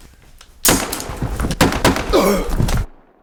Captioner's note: gunshots